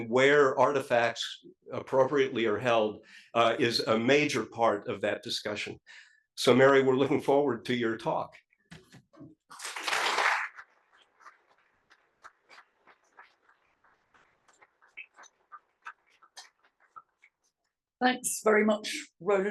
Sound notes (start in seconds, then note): 9.5 applause